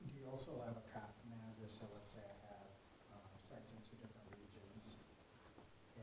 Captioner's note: man speaking faintly off microphone